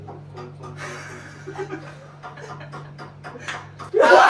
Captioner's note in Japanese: 笑い